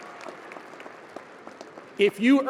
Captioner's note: audience applauding and cheering